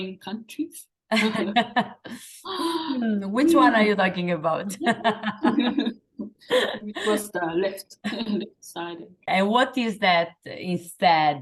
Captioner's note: laughing